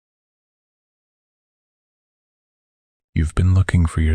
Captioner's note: soft voice